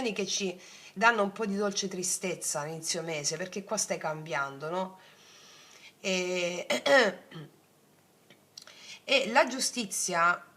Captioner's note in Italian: schiarire la voce